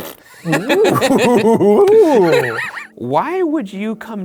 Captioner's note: blows raspberries; both laughing